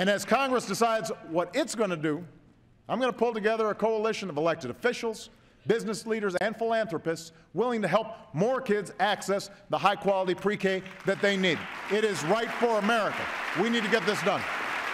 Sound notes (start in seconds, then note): 10.6 applause